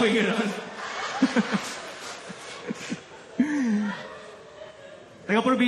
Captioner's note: chuckles; laughter